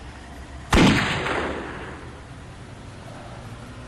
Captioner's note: gun firing